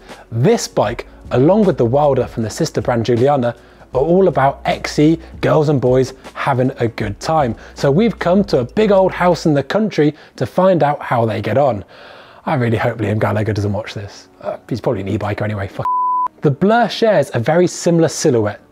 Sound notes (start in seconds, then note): 15.8 beep